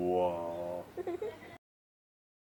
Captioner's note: kid's laughing in the back